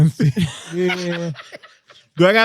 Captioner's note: laughing